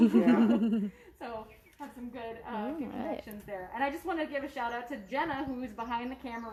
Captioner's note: laughter